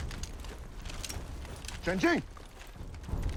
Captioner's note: shouting in mandarin